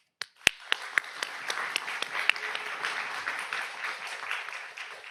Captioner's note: audience applauds